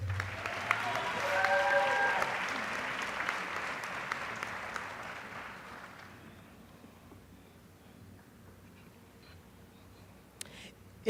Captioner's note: applause